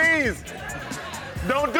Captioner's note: audience laughs